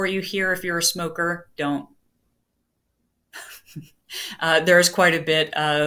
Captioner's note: laughter